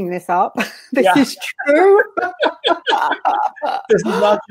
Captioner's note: laughs